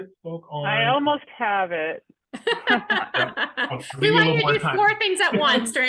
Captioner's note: all chuckling